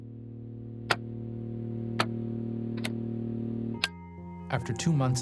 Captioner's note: buttons clicking